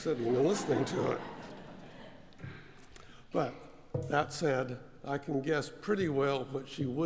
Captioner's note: laugh